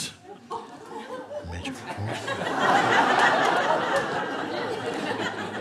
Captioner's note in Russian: смех